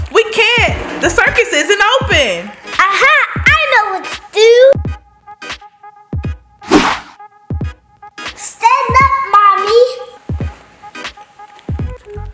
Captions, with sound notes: - We can't, the circus isn't open. - Ah ha, I know what to do. (whooshing) Stand up, Mommy.